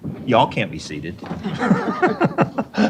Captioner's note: laughter